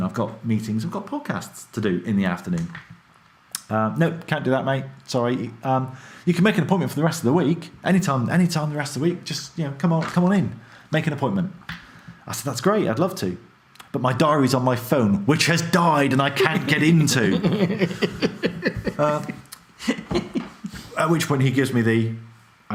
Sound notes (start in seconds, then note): 17.9 laughs